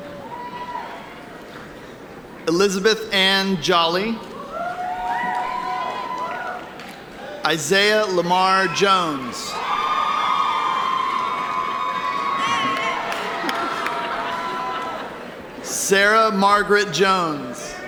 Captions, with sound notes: Elizabeth Anne Jolly. Isaiah Lamar Jones. (audience cheering) Sarah Margaret Jones.